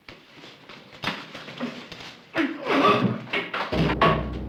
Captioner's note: scuffle